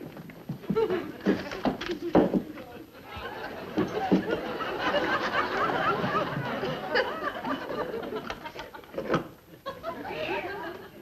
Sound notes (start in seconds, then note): 2.6 audience laughing; 3.2 loud fumbling